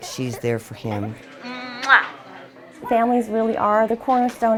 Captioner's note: kissing